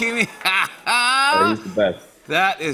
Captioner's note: laughs